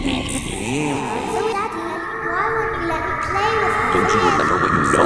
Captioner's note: creepy Laugh; little girl voice